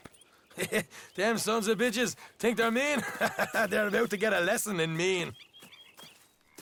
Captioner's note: laughs